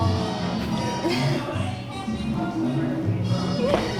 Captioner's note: both laugh